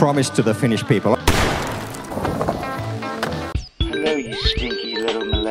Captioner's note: gunshot